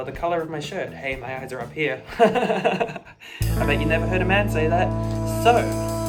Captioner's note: laughing